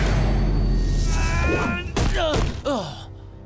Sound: grunting

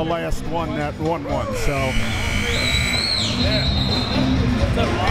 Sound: buzzer ringing

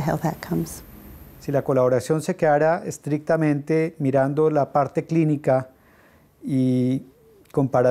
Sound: Spanish

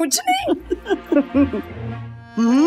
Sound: chuckling

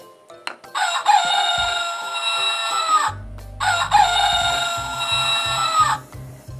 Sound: rooster Sound

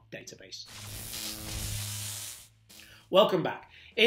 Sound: electric buzzing

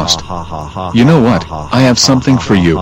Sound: laughter

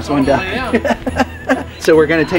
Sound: group laughing

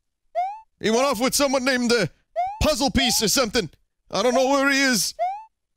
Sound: Cartoon Luigi Impression

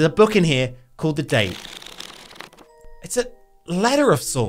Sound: pages flapping

